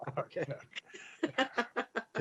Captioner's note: laugher